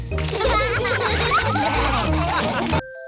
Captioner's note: all laugh